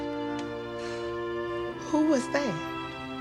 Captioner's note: sighs sharply